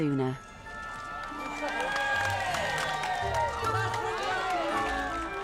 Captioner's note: crowd cheering